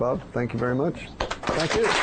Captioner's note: applause